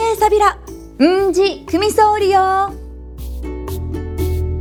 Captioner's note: in Okinawan